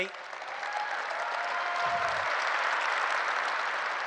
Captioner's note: cheers and applause